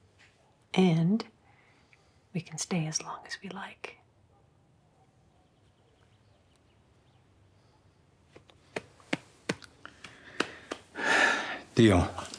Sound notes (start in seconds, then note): 8.3 pats leg; 11.0 Christopher sighs